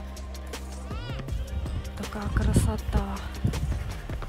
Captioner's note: normal voice